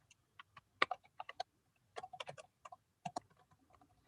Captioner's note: keyboard clacking